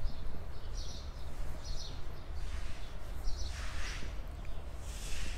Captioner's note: birds chirping